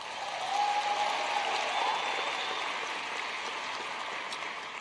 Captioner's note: cheers and Applause